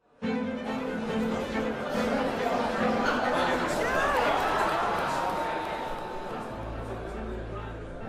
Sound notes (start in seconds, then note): 0.1 crowd chatting; 0.2 dramatic music